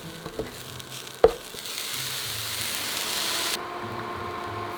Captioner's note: food sizzling